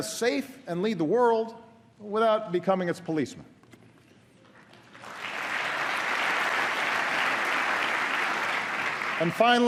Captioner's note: applause